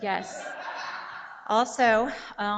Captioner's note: audiences giggle